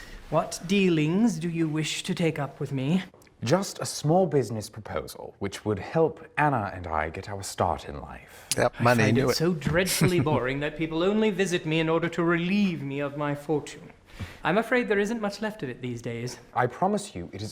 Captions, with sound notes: Yup. Money. Knew it. [Chuckling]